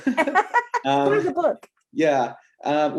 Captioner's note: laughter